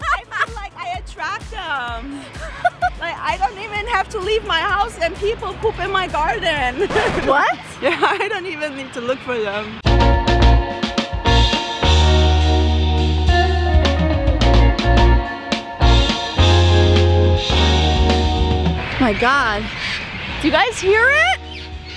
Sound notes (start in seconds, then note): 0.0 laughing; 6.8 record scratch; 10.0 upbeat music